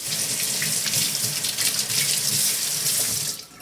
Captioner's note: water running